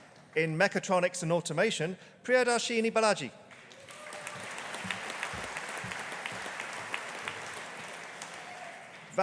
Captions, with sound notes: In Mechatronics and Automation, Priyadarshini Balaji. (AUDIENCE APPLAUDING)